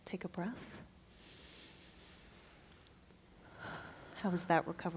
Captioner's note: inhales and exhales